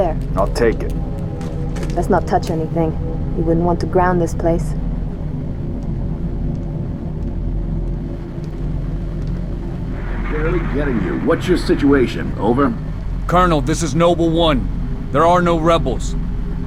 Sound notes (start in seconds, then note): 8.1 static; 10.1 radio